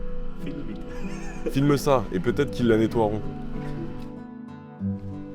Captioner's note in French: rires